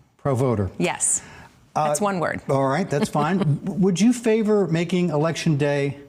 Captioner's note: laughter